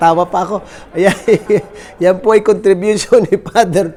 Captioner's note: laugh